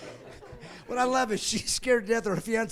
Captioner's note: laughing